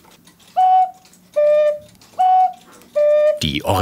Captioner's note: two alternating tones